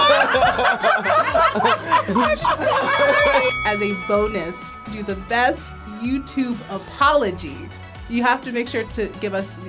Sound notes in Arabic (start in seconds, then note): 0.0 الجميع يضحكون; 2.1 قرع الجرس